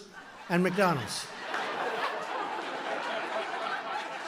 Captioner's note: laughter